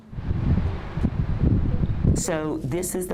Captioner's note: transition whooshes